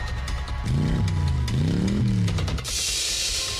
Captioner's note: dramatic music; engine revving; tense music